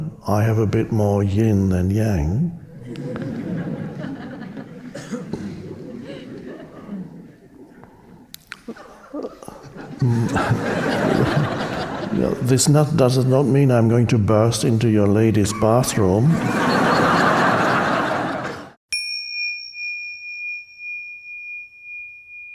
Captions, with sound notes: I have a bit more yin than yang. (audience chuckling) (audience laughing) This does not mean I'm going to burst into your ladies' bathroom. (audience laughing) (bell chiming)